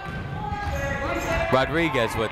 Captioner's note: people shouting in the crowd